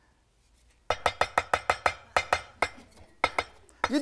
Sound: chopping

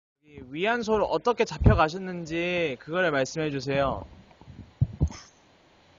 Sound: speaks in foreign language

